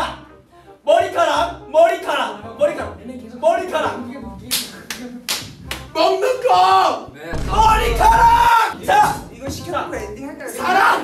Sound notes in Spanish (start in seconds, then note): 5.2 clap